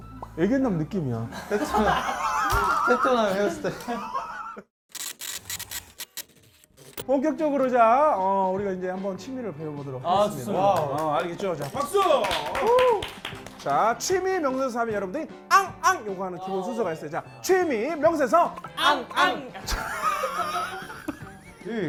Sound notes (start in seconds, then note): 10.7 applause added